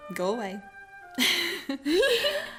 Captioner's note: laughs